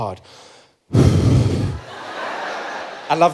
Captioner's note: breathing out noisily